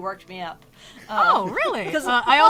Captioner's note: laughs